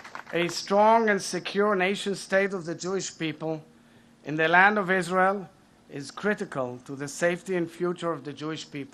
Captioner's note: applause